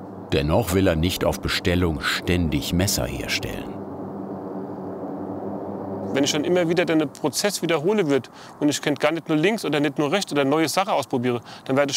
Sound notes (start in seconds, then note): 3.7 airplane engine hum